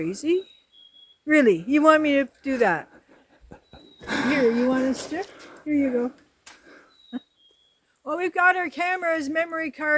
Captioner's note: laughter